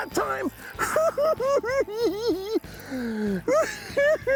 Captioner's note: cackling